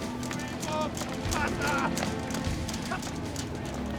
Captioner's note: marching